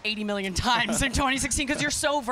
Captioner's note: laughter